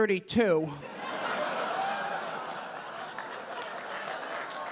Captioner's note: audience laughing